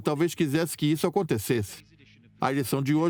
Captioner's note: voiceover